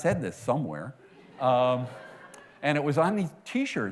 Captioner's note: laughter